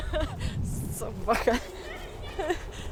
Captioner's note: laughter